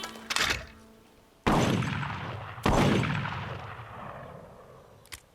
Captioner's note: clicking sound; gunshots fired; clicking sound